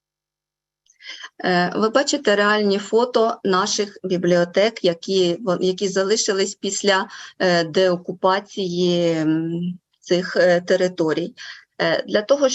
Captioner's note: foreign Language Spoken